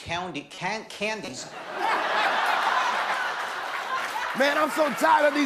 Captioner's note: laughter